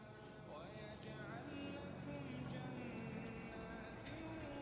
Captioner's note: chains rattling